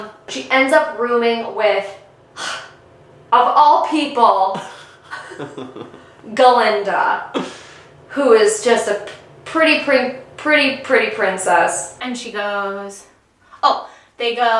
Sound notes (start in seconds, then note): 2.3 huff; 4.5 laughing